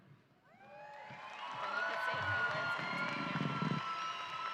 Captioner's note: audience cheering